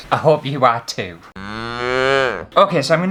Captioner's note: mooooo!